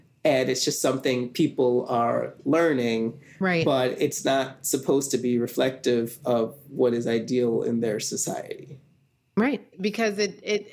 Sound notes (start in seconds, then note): none